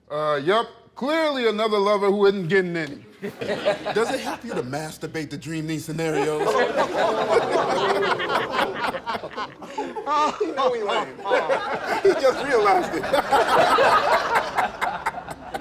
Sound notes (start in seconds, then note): 3.2 laughter; 6.9 laughter; 11.5 laughter; 14.0 laughter